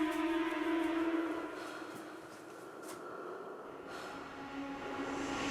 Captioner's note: faint heavy breathing